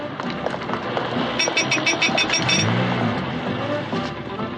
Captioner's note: horn honking